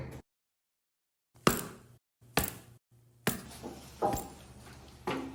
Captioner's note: boot sounds